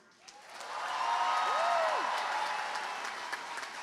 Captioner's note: cheering, applause